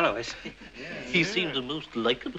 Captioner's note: mumbling in agreement